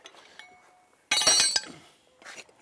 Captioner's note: metal clanking